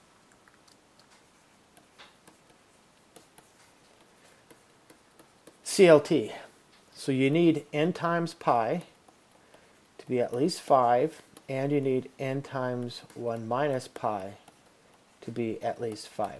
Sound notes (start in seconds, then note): 0.3 clicking; 1.9 background clicking